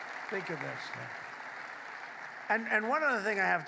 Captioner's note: applause